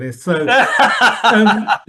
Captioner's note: laughs